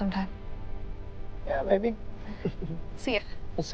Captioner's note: chuckles